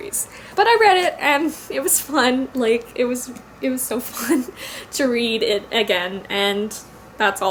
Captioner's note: laughs